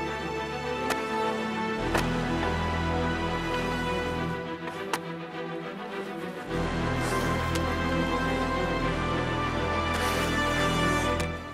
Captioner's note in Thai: เสียงขุดดิน